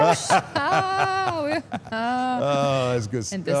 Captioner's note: laughing